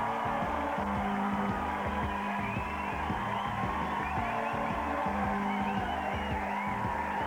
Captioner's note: applause